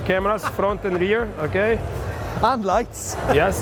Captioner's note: laughs